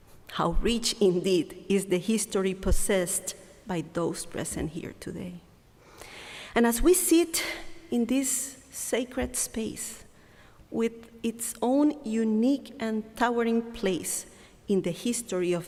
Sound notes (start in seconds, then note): none